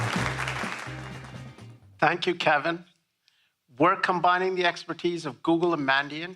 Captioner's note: applause